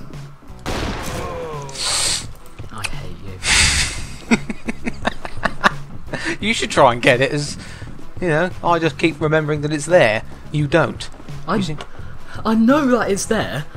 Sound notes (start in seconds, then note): 1.7 sniff; 2.4 quietly; 3.6 maniacal laugh